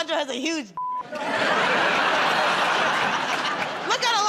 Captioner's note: laughter